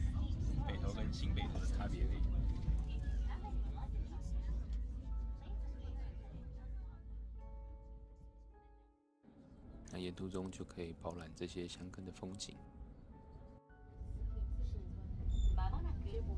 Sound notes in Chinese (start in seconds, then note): 3.5 背景廣播聲